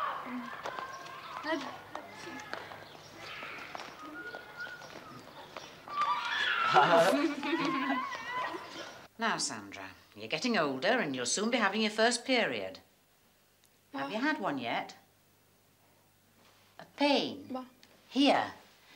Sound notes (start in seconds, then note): 5.9 children laugh